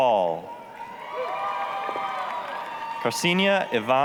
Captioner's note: applause, cheering